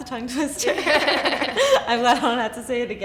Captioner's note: laughter